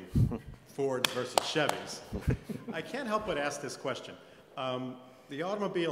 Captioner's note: applause